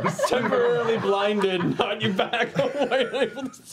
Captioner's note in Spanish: ríe